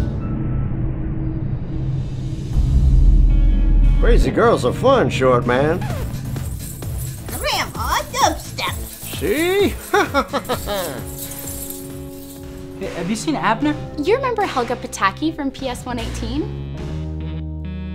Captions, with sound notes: Crazy girls are fun, Shortman. (dubstep music plays) Grandma Dubstep! See? (laughs) Have you seen Abner? You remember Helga Pataki from P.S. 118?